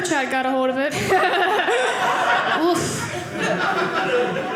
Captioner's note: audience laughing